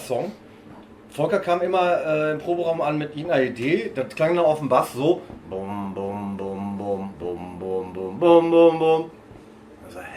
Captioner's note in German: imitiert eintöniges Bassspiel